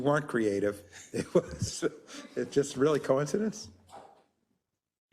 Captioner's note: laugh